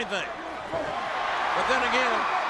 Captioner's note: audience cheers